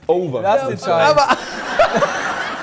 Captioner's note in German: Lachen